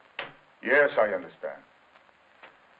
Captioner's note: in English